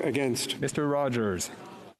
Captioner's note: speaking French